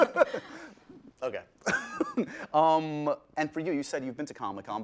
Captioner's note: laughs